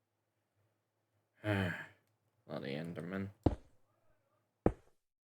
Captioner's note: sigh